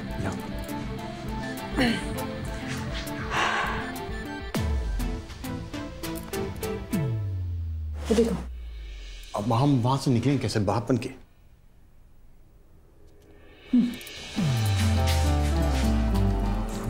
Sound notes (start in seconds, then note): 1.5 Clears throat; 2.7 Exhales sharply